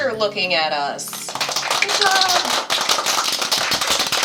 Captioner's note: applause